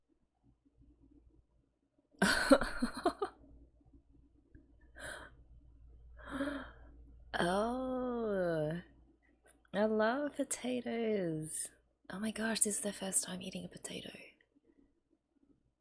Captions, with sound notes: [laughs] Ohh! I love potatoes. Oh my gosh, this is their first time eating a potato.